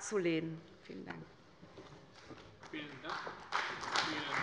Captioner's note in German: Beifall bei Abgeordneten der CDU